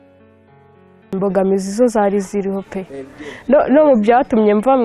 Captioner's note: speaking in Kinyarwanda